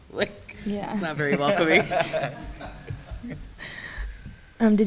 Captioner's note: laughs